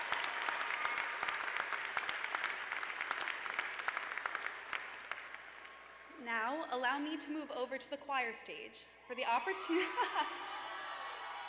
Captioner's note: cheers and applause